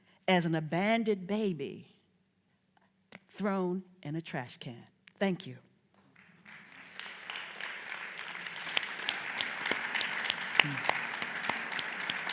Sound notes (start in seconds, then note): 6.1 audience applauds